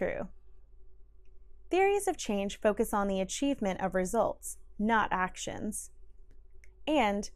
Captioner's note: click; click